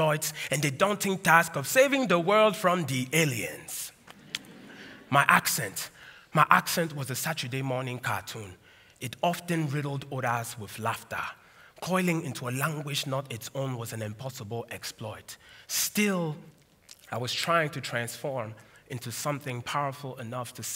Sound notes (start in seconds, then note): 4.2 laughter